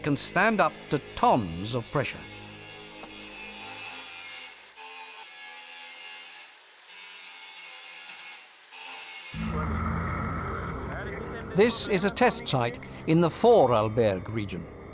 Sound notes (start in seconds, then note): 2.6 saw buzzing; 4.6 continues sawing